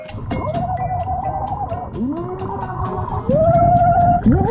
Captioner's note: underwater screams; underwater cheering